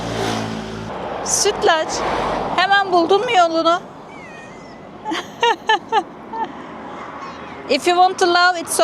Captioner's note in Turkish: kahkaha